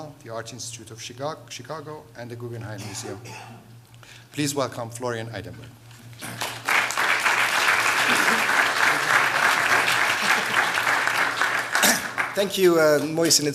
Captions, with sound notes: the Art Institute of Chicago, and the Guggenheim Museum. Please welcome Florian Idenburg. [applause] Thank you, Mohsen.